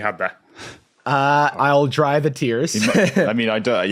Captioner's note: chuckles